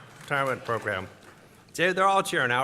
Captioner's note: applause